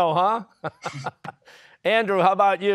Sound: laughing

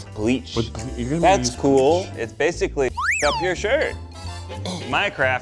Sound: beep

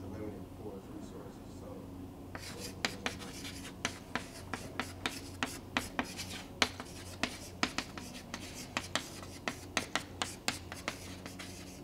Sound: chalkboard writing

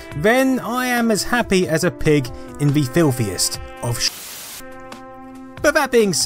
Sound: static hiss

